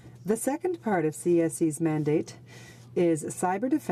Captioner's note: speaking in french